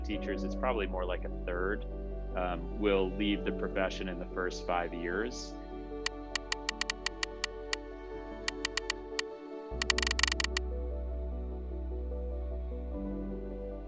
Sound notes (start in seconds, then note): 6.0 clicking sound